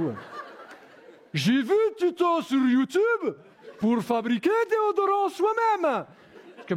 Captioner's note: Russian accent